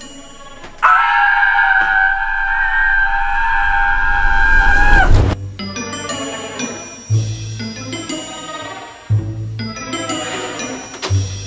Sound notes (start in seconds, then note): 0.8 screams; 5.3 mysterious music